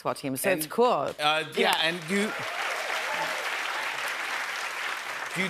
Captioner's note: cheers and applause